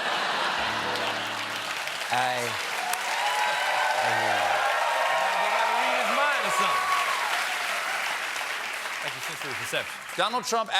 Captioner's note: laughter; applause